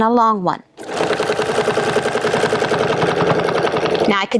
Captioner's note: machine whirring